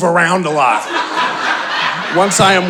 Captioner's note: audience laughing